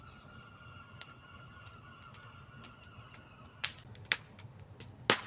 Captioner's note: distant seagulls calling; fire crackling